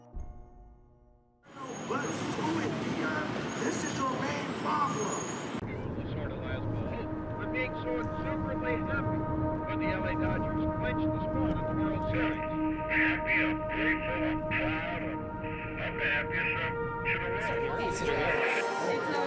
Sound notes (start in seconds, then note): 7.1 dramatic music; 7.1 voices and static on radio